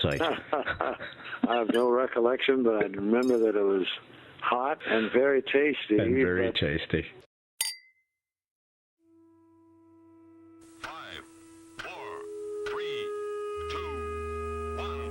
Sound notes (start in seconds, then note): 0.2 laughs; 7.6 glass clinks; 9.0 tense somber music